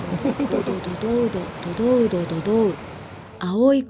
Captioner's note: the sound of the wind